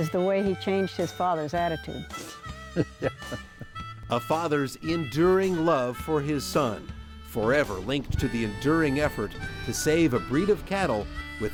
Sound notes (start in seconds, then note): 2.6 laughter